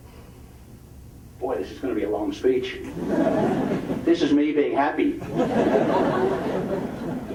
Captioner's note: audience laughing